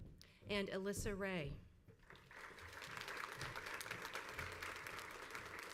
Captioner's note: crowd applauds